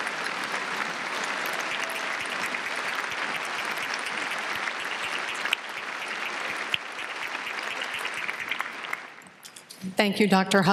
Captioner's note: applause